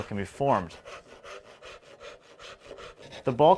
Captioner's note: saw zips